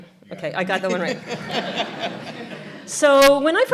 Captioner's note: audience laughter